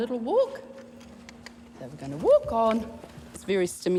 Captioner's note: clicks